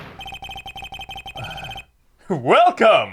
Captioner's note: sigh